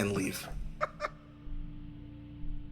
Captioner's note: laugh